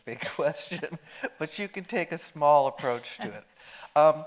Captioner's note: chuckling